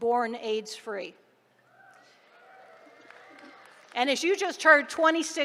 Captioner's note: applause